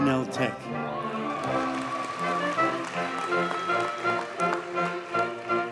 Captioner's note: audience cheers and applauds